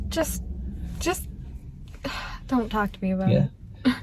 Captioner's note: sighs